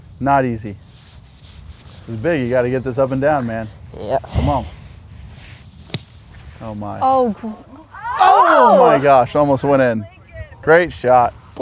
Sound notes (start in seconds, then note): 7.9 screams